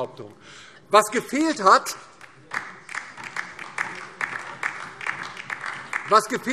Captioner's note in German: Beifall DIE LINKE